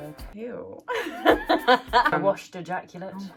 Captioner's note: laughing